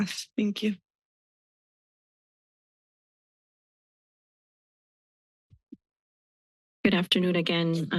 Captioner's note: silence